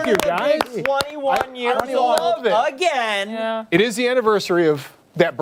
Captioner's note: applause